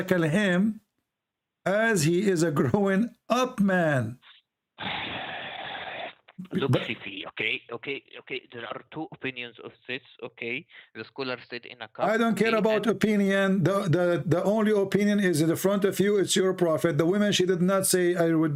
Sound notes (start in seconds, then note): 5.5 Bertepuk tangan